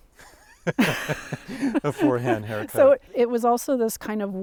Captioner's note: laughs